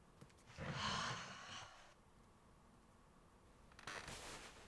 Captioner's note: Tilly sighing